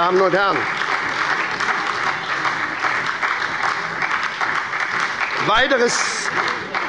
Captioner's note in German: Beifall bei der SPD und der LINKEN